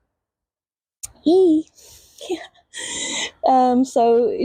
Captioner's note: laughs